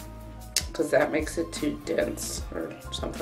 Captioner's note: smack lips